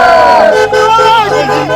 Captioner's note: cheers; frenzied crowd